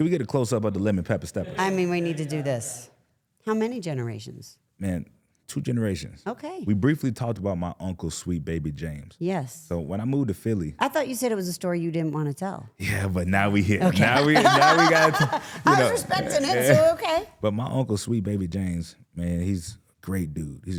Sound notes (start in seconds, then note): 13.6 laughs